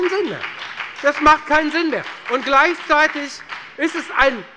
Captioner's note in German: Beifall bei der FDP